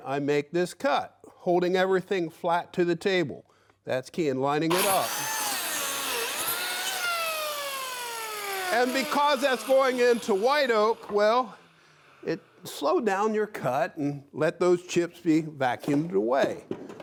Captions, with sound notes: and I make this cut holding everything flat to the table. That's key in lining it up. (machine whirring) And because that's going into White Oak, well, it slowed down your cut and let those chips be vacuumed away.